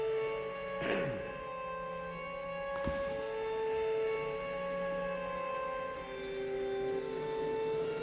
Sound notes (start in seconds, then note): 0.8 Max clears throat